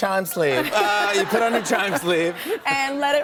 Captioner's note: laughter